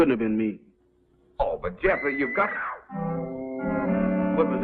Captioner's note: woman's scream